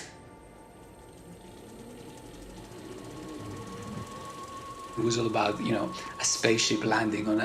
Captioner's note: soundbite of movie projector whirring